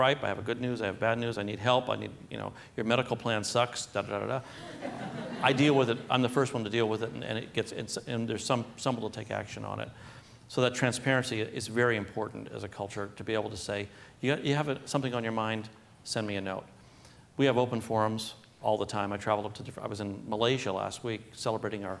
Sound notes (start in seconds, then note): 4.4 laughter